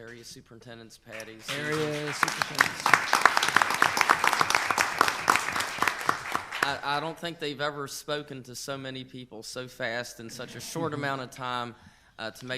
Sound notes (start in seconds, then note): 2.9 all applaud